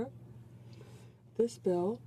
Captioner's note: speaking French